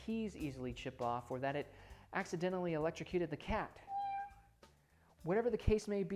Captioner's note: meow sounds